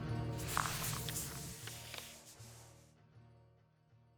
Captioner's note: papers shuffling